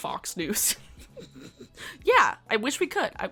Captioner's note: laughing